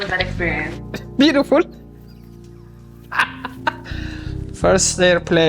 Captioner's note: delighted laugh